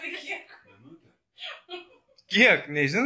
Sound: sweet laugh

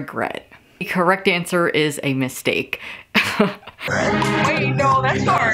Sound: laughing

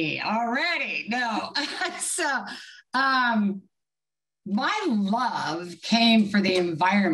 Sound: laughs

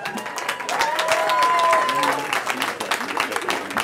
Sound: cheering

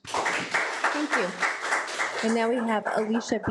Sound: audience applauds

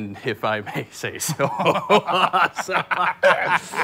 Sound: both laughing

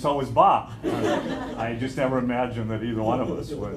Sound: laughter

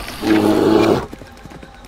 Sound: growl

